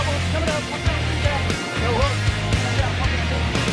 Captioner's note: murmurs